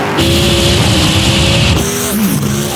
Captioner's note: car rumbling; engine snorting distantly; cars fizzing and zooming